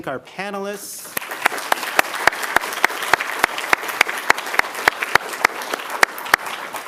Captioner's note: applause